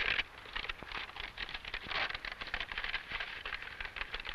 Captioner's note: map rustling